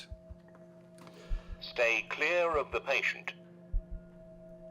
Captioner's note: robotic Voice